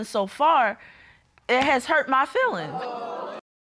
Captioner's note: audience exclaims